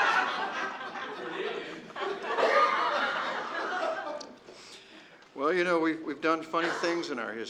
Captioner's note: laughter